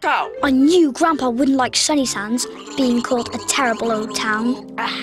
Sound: purpelovna gurgles

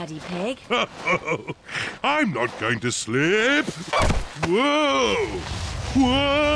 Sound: snorts; chuckles

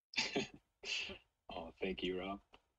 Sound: laughs

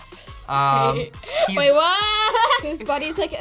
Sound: laughs

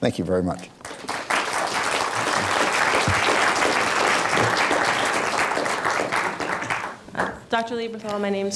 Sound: applause

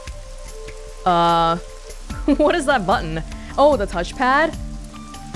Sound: chuckles

